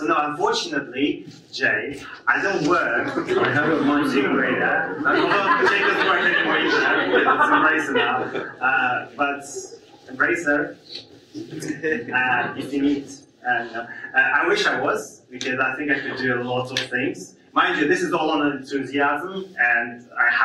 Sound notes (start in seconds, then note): 5.3 audience laughs